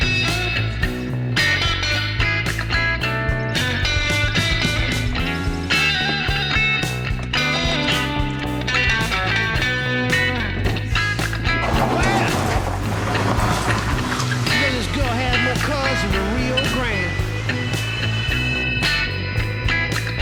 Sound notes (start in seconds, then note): 0.2 uptempo blues music continues; 11.8 gravel crunching